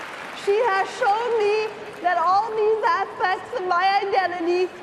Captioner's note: cheering and applause